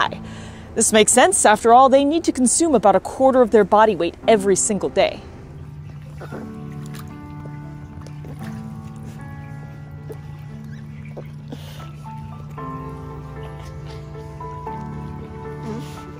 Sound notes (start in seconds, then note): 5.6 background music; 5.6 quiet squeaking noises